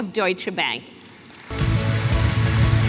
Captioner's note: applause